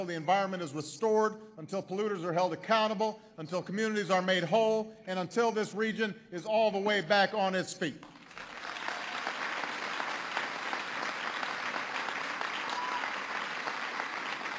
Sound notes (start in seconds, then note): 11.1 applause